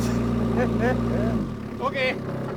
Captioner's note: laughing